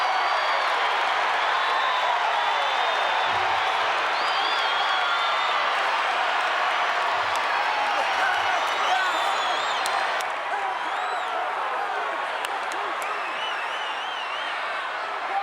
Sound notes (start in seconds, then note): 2.6 crowd cheers and whistles; 8.3 Savage laughs